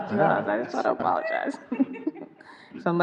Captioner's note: everyone laughing